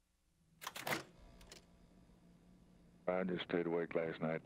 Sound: clicking

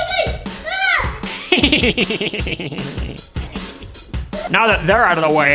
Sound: Grinch laughing

